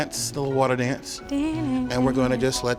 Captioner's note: humming a little ditty